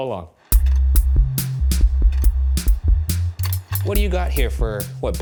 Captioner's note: projector whirring; upbeat music